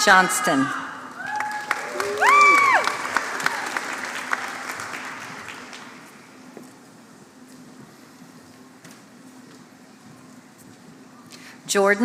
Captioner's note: applause